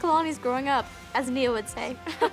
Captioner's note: laughs